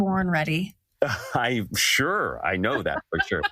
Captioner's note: laugh